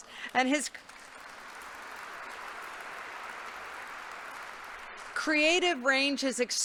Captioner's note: congregation applauding